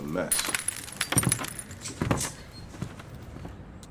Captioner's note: crunching glass